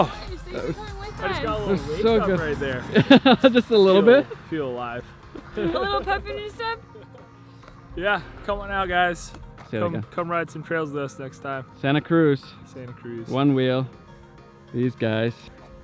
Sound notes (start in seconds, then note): 3.3 laughs